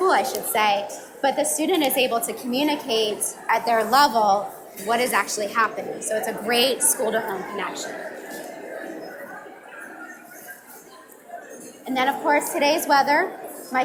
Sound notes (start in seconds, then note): 7.9 audience mumbling